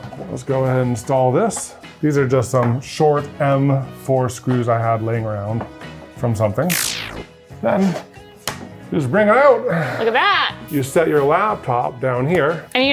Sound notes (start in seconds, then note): 6.6 graphic buzzing